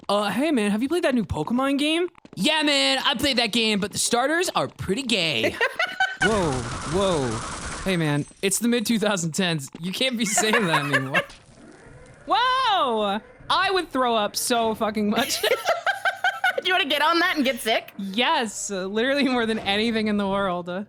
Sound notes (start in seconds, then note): 5.4 laughs; 15.2 both laugh